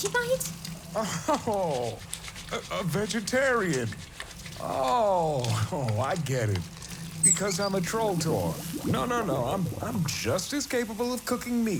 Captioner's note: reassuring